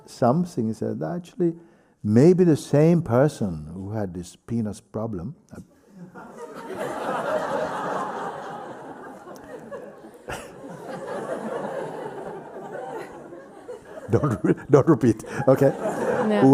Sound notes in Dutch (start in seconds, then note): 6.8 gelach; 10.2 Mooji lacht; 15.8 lacht